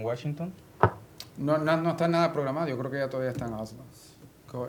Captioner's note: speaking spanish